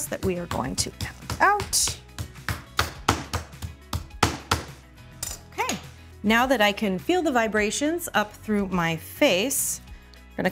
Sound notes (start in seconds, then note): 2.1 mallet thudding; 2.1 soft music